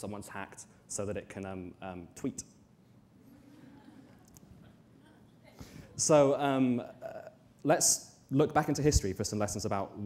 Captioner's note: audience laughter